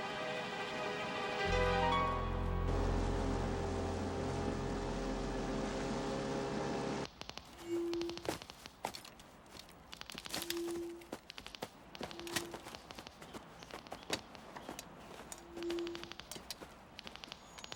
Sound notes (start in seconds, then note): 3.2 motor whirring; 7.6 detectors clicking